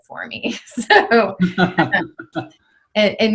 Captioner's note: both laughing